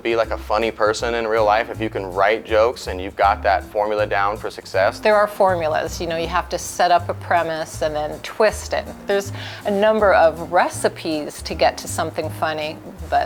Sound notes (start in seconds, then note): none